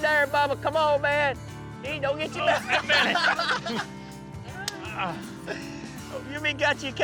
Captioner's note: all laughing